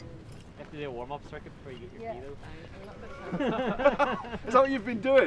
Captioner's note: laughs